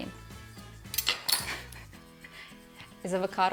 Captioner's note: laughs